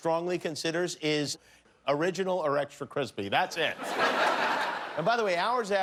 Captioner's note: laughter